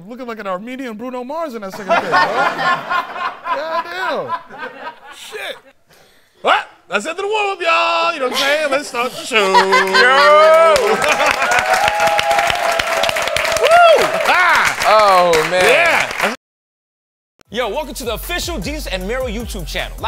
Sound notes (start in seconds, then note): 1.7 laughter; 9.6 cheering, applause